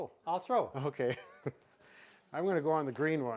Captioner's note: laughs